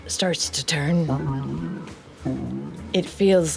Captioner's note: gurgles